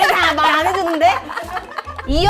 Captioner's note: annoyed